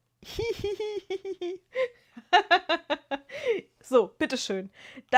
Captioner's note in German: gelächter